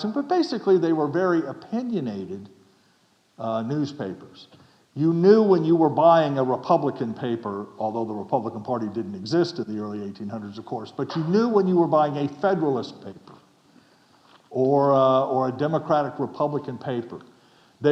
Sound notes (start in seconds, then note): none